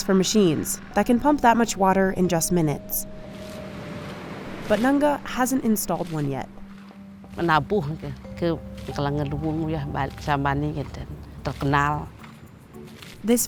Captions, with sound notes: for machines that can pump that much water in just minutes. But Nengah, hasn't installed one yet. (speaking foreign language)